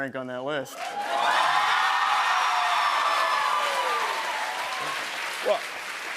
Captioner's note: cheers and applause